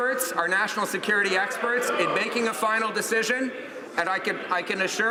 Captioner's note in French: voix de l'interprte